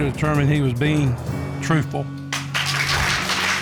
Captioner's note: audience applauds